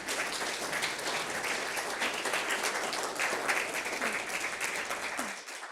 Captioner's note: applause